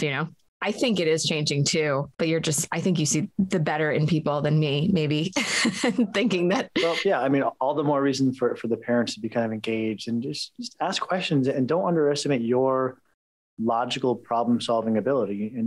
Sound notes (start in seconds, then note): 6.7 chuckles